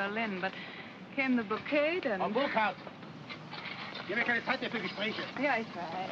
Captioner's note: foreman speaks in German